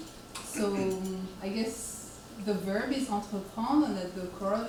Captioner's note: speaks French